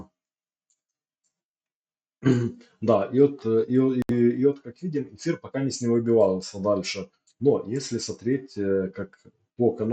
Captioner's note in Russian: откашливается